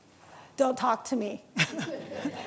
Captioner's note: laughter